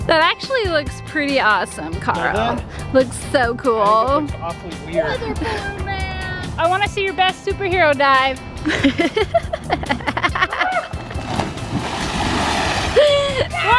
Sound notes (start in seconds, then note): 8.6 laughing; 10.9 water splashing